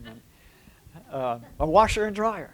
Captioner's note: laughter